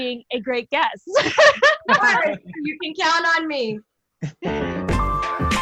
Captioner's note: laughs